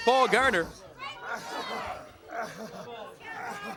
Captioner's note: crowd cheering